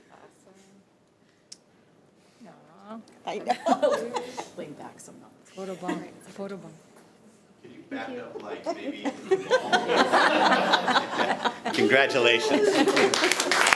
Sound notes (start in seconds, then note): 10.2 audience laughing